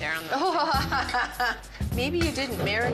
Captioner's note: laughing